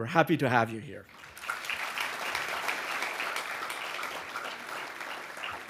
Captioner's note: audience applauding